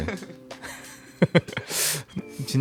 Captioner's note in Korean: 웃음